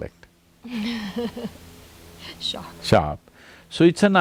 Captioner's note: laughs